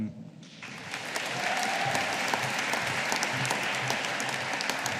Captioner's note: audience applauding